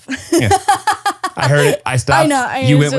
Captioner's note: laughs